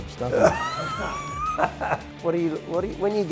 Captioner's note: all laughing